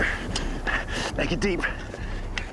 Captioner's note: shoveling